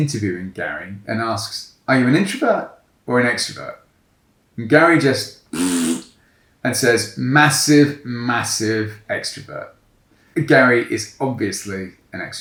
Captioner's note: raspberries